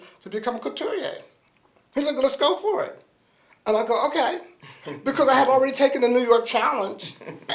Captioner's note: laughter